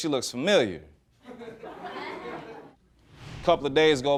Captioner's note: laughter